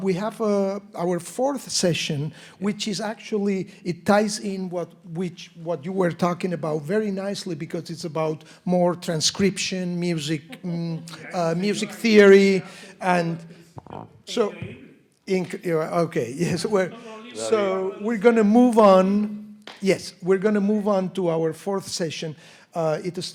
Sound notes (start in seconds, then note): 13.2 speaking in Spanish